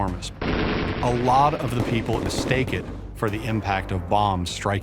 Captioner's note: guns firing